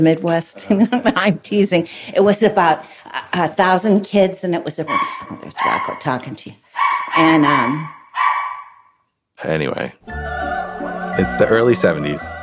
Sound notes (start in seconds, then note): 1.7 laughs; 6.7 dog barks